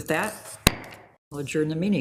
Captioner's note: gavel thuds